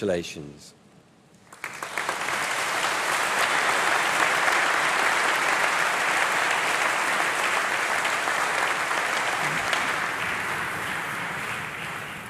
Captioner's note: applause